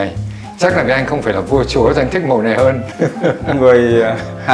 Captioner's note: laugh